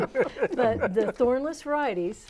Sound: laughing

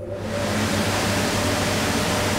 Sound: loud roar

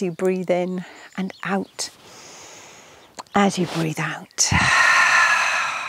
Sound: exhales

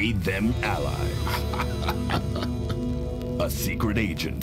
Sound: laughter

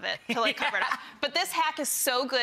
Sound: laughter

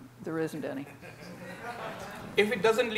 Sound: audience laughing

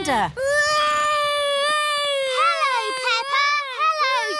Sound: continues wailing

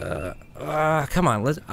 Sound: man grunting

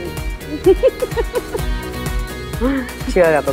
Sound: everybody giggles

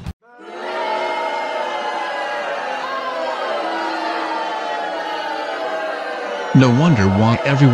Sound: audience booing

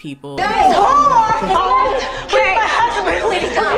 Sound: crowd commotion

